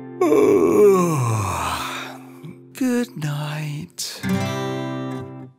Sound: yawns

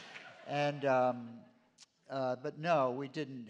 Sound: laughter

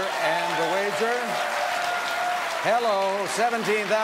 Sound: audience cheers

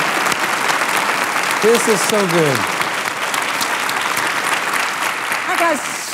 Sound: applauds

